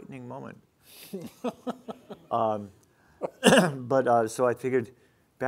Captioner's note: laughing